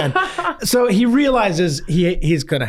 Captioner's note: laughs